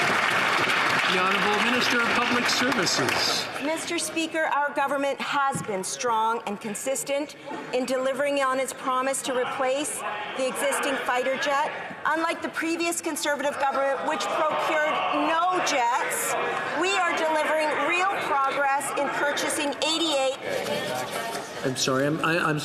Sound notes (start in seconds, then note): 2.7 some Applause